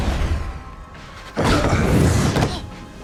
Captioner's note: grunt